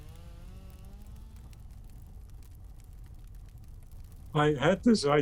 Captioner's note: fire crackling